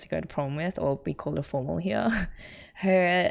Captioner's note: laughs